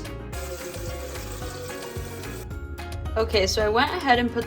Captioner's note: light upbeat music; water gurgling